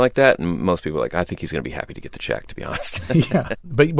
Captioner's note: laughter